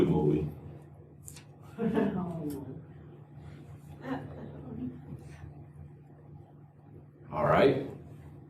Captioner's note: laughter